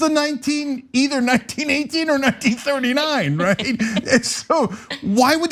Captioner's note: laugh